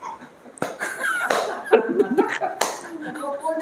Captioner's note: laughter